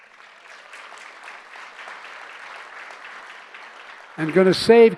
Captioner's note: applause